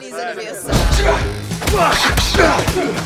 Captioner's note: grunting, yelling